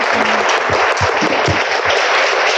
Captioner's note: applause